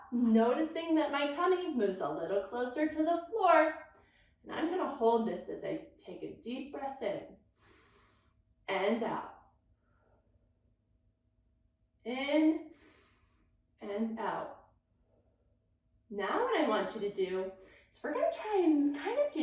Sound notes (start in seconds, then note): 7.5 inhales deeply; 9.9 exhales deeply; 12.7 inhales deeply